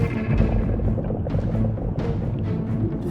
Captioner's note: bubbling